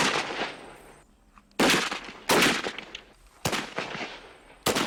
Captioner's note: gunshots